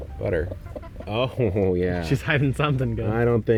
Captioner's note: laughing